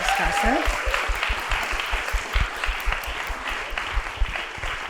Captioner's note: applause